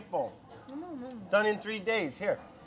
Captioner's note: murmuring